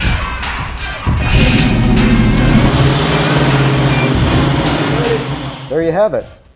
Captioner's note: engine revs as car starts